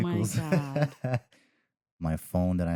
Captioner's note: laughs